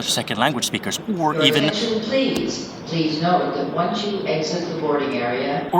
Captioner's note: airport Loud Speaker